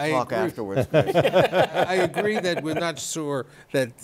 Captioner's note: laughter